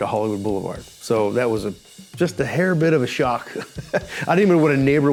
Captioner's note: chuckles